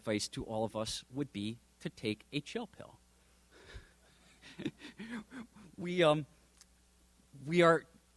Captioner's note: little chuckle